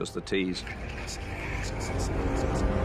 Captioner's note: whispering